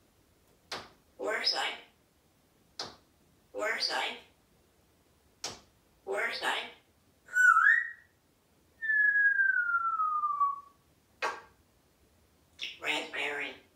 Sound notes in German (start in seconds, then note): 7.2 whistling